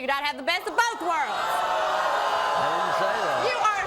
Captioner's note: audience gasping